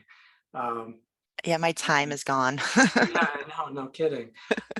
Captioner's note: laughing